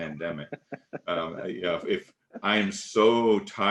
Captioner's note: laughing